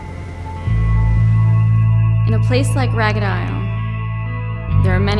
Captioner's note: voice-over